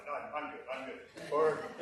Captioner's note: laughter